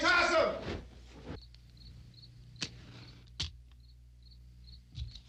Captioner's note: insects chirping